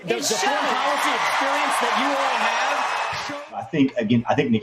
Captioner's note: applause